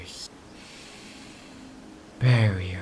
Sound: inhale

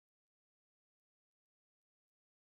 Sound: none

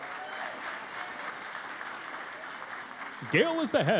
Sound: cheering and Applause

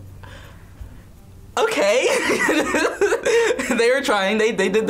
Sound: laughs

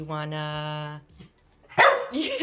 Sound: barks

